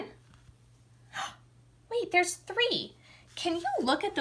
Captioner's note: gasps